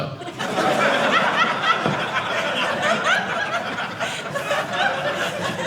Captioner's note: audience laughing